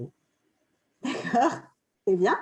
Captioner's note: laughter